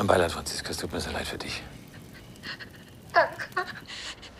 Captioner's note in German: weinend